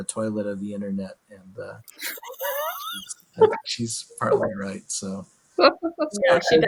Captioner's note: laughs